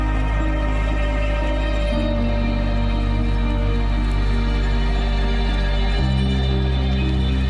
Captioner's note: stirring music continues; water lapping continues